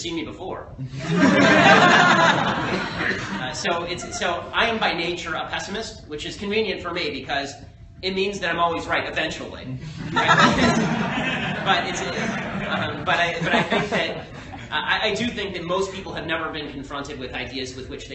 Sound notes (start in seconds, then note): 3.5 laughter